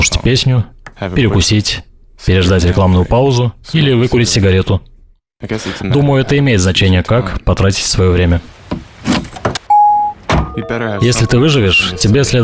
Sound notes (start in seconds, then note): 7.9 car trunk and door thuds; 8.0 rain sputtering